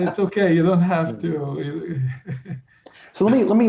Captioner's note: laughs